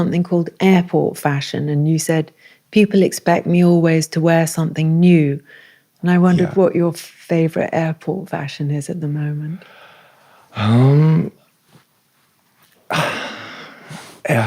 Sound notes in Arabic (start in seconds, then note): 12.9 تنهدات